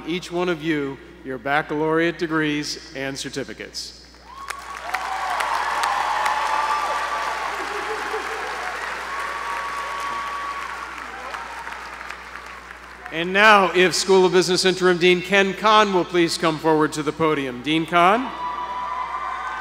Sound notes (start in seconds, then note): 4.2 applause